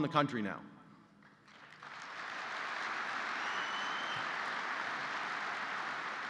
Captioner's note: applause